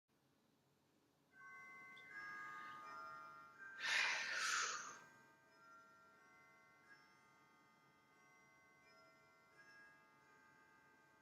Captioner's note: grandfather clock chiming